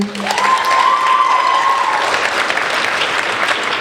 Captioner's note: applauding